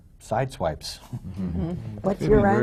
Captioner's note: laughter